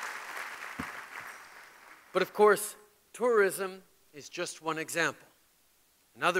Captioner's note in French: Applaudissements